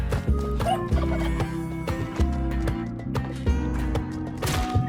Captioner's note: character chuckling